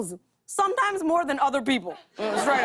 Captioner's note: laughter